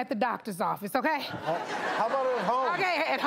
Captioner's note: audience laughs